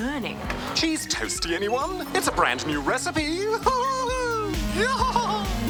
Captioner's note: chuckles